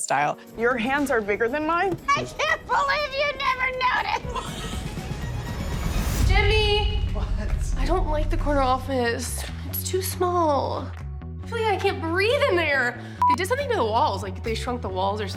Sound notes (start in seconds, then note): 4.0 laughing